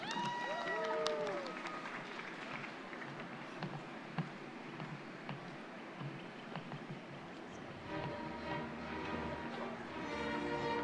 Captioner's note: applause